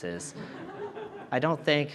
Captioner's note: audience chuckling